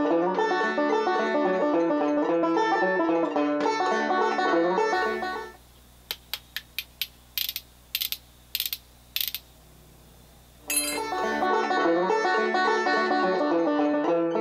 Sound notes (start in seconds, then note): 6.2 spoons clicking; 11.1 cheerful folk music